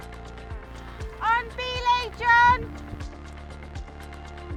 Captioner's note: shouts